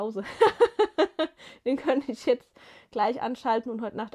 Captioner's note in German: gelächter